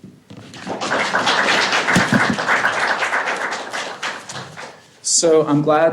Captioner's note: applause